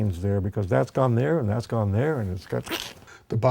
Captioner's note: makes a squeezing sound